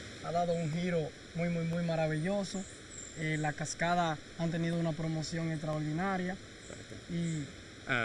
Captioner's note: guide speaks in Spanish